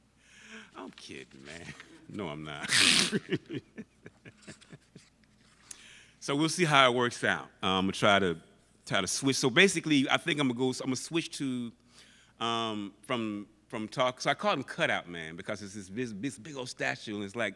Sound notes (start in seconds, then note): 2.6 laughs